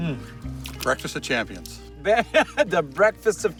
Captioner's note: laughing